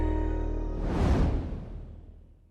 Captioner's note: whooshing